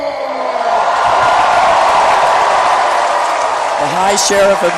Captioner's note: cheering